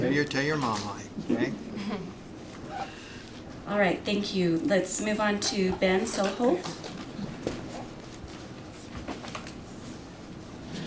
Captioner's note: clears throat